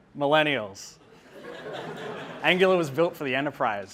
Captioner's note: audience laughing